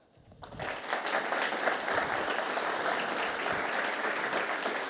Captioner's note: attendees applauding